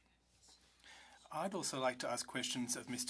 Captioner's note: speaking French